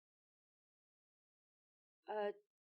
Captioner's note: silence